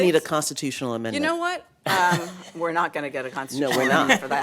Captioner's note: laughter